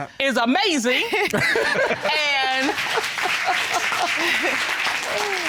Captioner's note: audience applauds, laughs